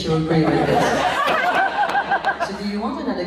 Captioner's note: laughs